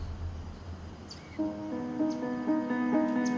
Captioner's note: birds twittering